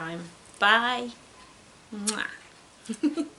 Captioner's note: giggles